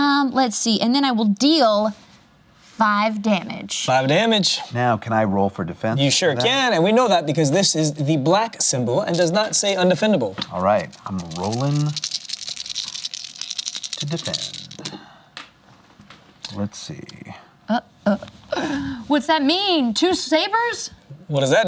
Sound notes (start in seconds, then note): 13.0 dice rattling